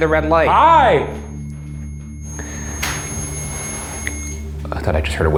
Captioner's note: REM-Pod beeping